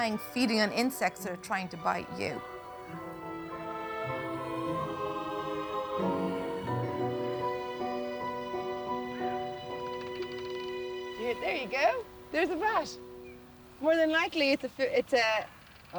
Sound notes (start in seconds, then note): 9.1 animal clicking